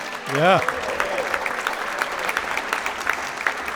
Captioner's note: applause